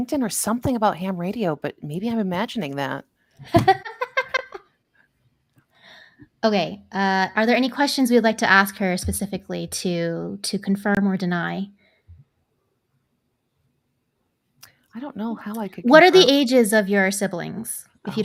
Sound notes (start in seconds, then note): 3.5 laughs